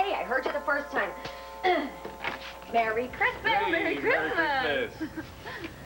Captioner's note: doorbell rings